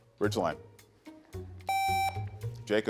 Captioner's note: buzzer beeps